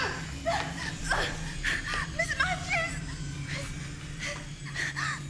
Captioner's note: gasping